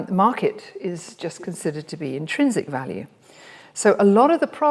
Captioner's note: none